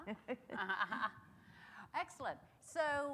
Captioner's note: laughs